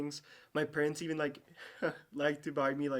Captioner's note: chuckles